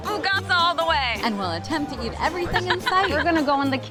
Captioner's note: laughing